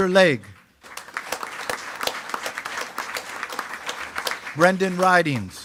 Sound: attendees clapping

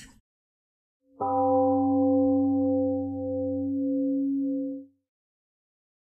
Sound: temple gong rings, then fades out

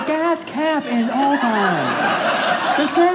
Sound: audience laughing

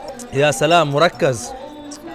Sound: Arabic

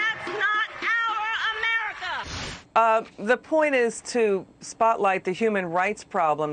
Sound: cheers and applause

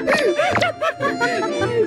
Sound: cracking up

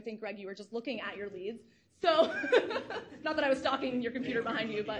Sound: laughs

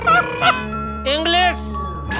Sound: English

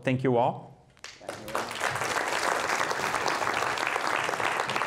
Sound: applauding

